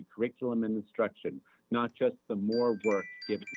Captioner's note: chime